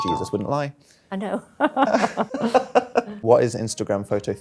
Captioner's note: both laughing